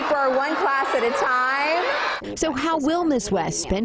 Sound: cheers

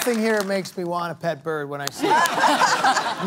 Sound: laughter

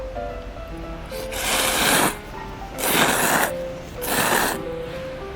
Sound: slurping noodles X 3

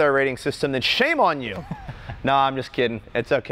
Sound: laughs

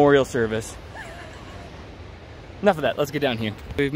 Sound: chuckles

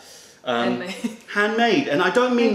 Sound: laughter

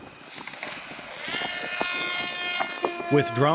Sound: drone buzzing

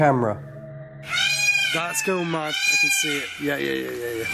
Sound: peacocks squawking

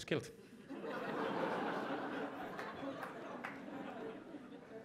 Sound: audience laughs

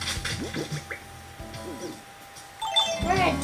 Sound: button noises

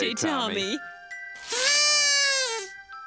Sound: hooting

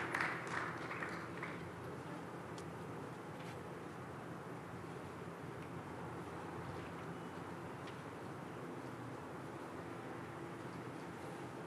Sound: applause

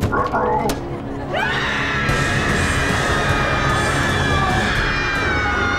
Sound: screaming

